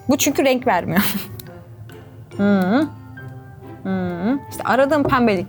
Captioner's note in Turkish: Gülüşmeler